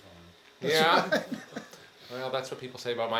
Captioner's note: attendee chuckling